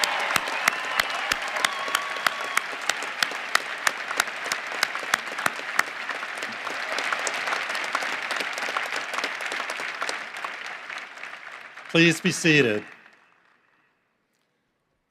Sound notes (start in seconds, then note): 4.6 cheering and applause